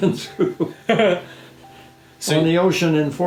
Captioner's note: laughing